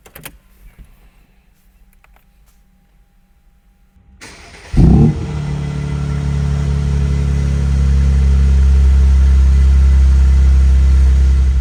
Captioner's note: car Start and revving